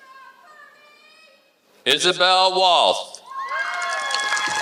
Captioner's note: applause